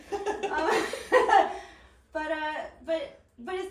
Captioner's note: laughing